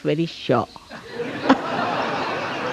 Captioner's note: laughs